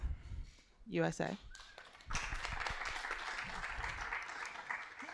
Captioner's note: applause